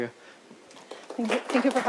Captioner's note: applause